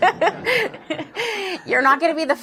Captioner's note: laughter